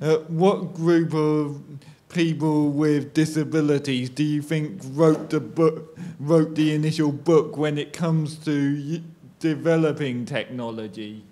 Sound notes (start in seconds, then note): none